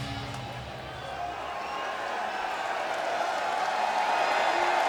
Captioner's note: audience chanting